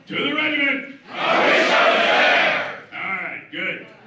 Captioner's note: speaking Spanish; everyone speaking Spanish